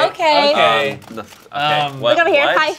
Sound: camera clicking

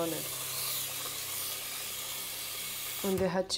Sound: water running

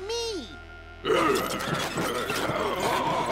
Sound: growling

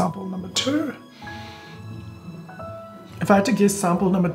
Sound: inhales

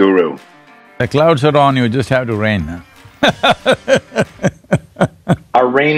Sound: laughs

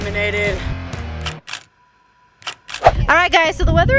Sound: click

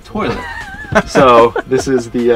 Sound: laughing

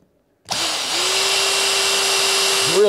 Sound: drilling

